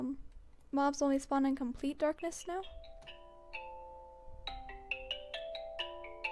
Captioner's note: phone ringing